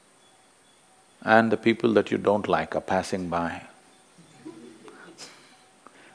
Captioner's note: laughs